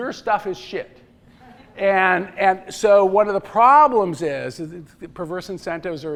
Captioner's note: laughter